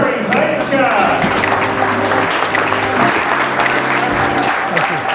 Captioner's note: audience claps